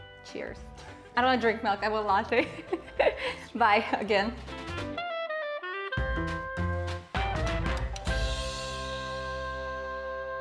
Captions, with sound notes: Cheers. I don't want to drink milk, I want a latte. (chuckles) Bye again.